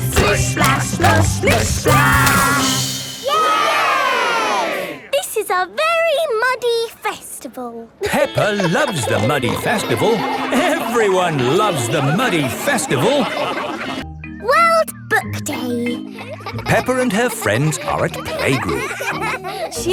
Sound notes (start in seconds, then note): 3.2 all cheering; 8.0 laughing